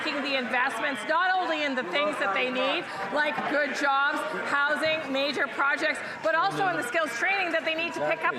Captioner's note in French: voix de l'interprète